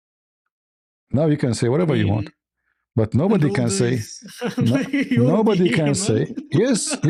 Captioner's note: laughter